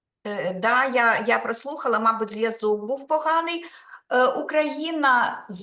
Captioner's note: speaking Ukrainian